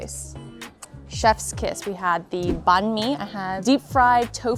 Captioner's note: lip smacking